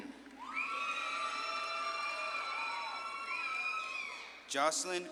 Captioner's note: audience claps and cheers